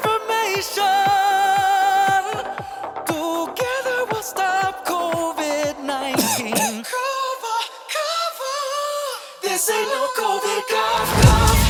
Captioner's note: cough